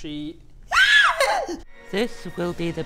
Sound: piercing shriek

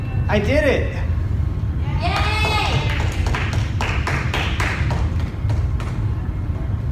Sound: ding; sporadic clapping

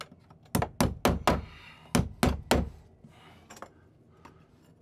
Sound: hammer pounding

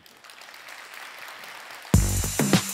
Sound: applause

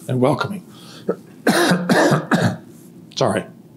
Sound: coughing

